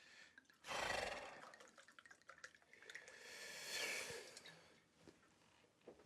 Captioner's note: guy exhales; wine sloshing